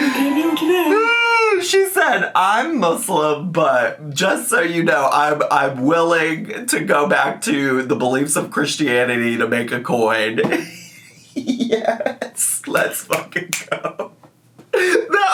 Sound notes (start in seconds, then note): 10.6 laughs; 14.3 laughs